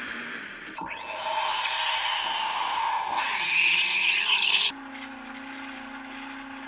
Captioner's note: milk steaming